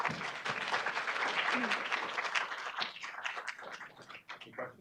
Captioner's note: audience applauding